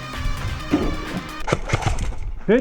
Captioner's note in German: Schüsse